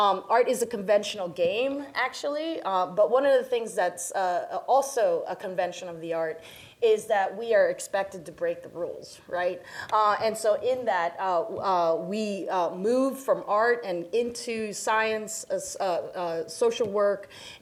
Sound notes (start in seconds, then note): none